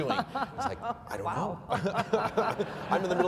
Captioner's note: laughing